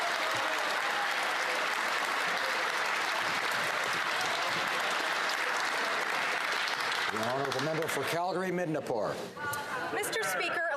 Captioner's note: some Applause